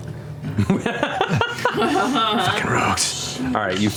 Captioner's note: laughs